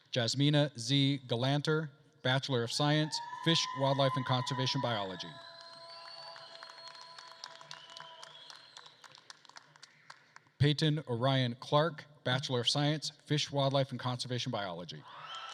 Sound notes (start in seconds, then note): 5.4 attendees cheering and applauding; 6.3 attendees whistling